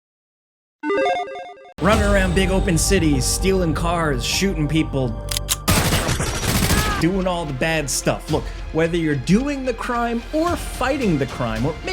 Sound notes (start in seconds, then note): 1.8 bright music; 5.6 gunshots boom